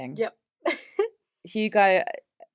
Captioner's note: laughs